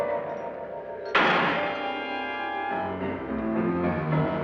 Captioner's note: door slamming shut